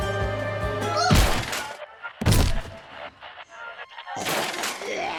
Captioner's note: june grunts